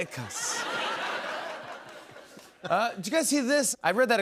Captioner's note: laughter